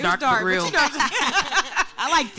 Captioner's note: panel laughing